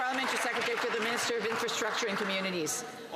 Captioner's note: some Applause